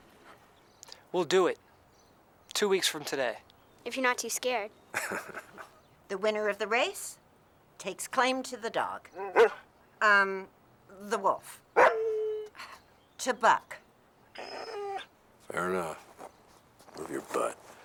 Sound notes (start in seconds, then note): 4.9 Heep laughing; 9.1 Buck barks; 11.7 Buck barks; 14.3 Buck whimpers